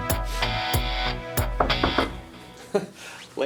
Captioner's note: knocks on door; chuckles